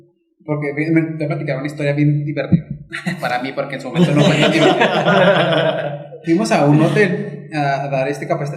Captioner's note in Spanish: risas